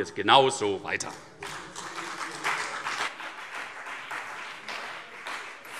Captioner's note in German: Beifall CDU und BÜNDNIS 90/DIE GRÜNEN